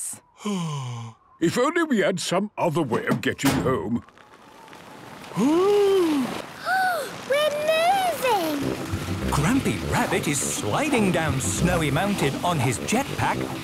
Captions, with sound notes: - Oh... If only we had some other way of getting home... - (clangs) - (sliding) - Oooh! - (Peppa gasps) We're moving! - Grampy Rabbit is sliding down Snowy Mountain on his jetpack,